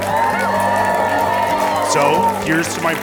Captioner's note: cheering